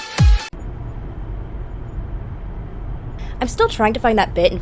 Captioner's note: car noises